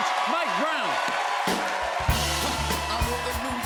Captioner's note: cheers and applause